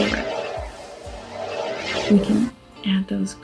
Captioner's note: sound effect drowns out speaker; whirring